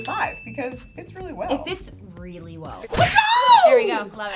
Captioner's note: yells